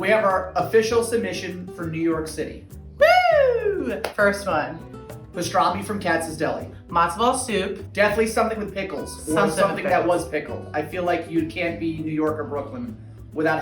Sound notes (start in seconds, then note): 3.0 cheers